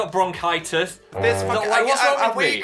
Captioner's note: horn blowing